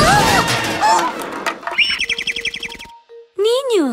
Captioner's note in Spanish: Sonido de pájaro